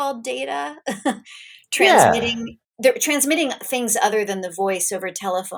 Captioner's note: chuckles